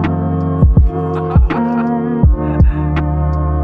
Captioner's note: laughter